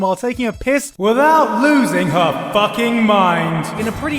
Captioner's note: deep voice with eco